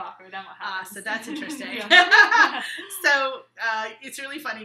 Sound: laughing

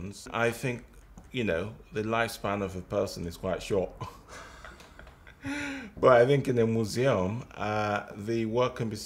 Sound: laughter

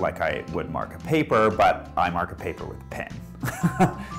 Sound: laughs

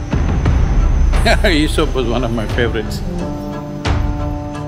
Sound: laughs

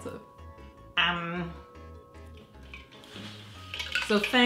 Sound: nasally humming

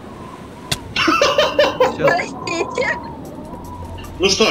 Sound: laughs loudly

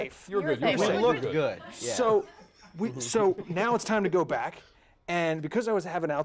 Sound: laughter

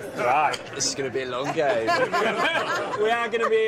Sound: all laughing

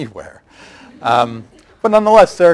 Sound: laughter

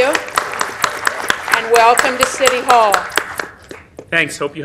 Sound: applause

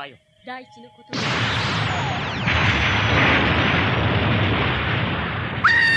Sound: SFX: explosion

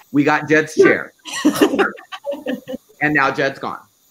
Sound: laughing

